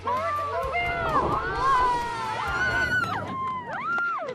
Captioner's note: all cheer